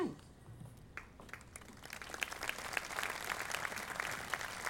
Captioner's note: audience applauding